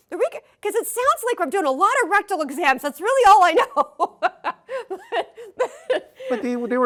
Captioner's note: rires